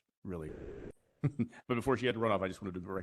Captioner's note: laughter